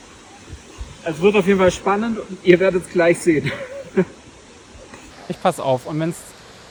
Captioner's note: nervous laugh